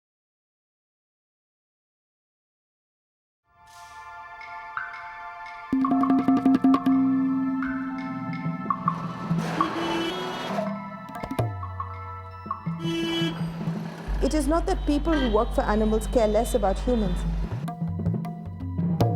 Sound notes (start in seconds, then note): 6.6 slow percussive music; 9.7 cars honking